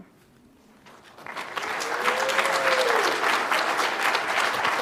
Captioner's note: audience applauds